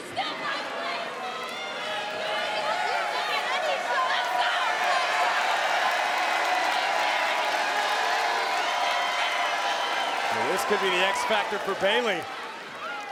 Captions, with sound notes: This is still my place! Let's go! (crowd cheers) Well, this could be the X factor for Bayley.